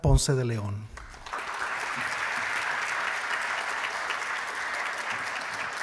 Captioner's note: applause